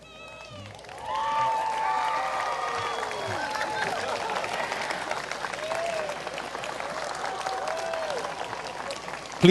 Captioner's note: applause